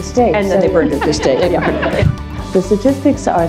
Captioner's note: laugh